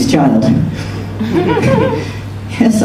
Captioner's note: laughter